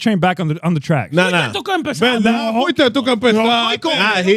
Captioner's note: speaking In Foreign Language